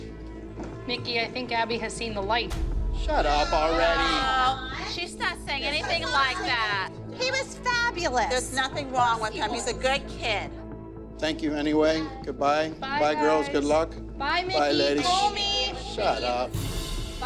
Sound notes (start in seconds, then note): 3.9 chatter